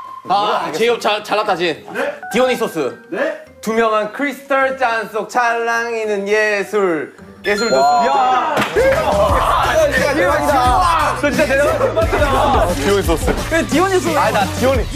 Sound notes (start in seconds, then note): 7.5 ding dong